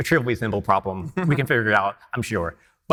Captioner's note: laughing